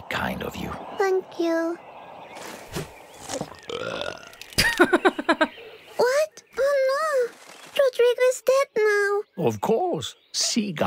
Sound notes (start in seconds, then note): 4.5 chuckles